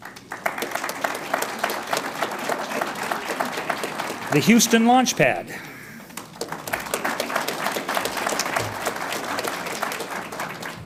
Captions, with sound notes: (audience applauds) The Houston Launchpad. (audience applauds)